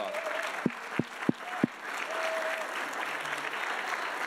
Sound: audience applauding

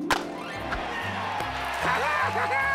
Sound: cheers and applause

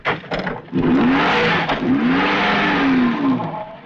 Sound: engine revving

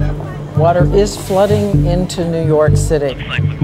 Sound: voiceover

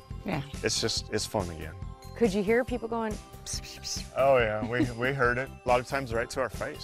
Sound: whispers

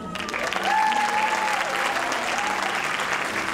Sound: applause

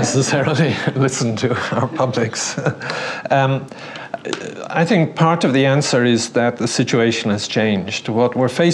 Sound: laugh

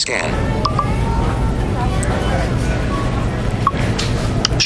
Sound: cellphone beeping

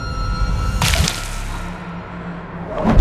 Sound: crunching

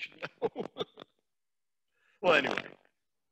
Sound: laughs

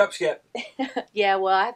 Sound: laughs

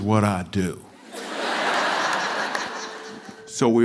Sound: laughter

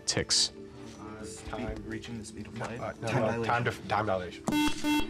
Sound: enthusiastic whispering

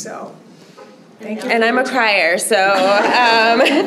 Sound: laughter

